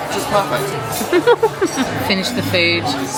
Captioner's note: laughing